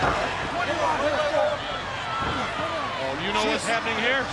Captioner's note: Hogan faintly speaking